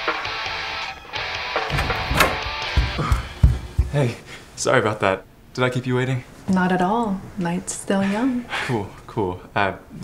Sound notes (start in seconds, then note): 1.7 footsteps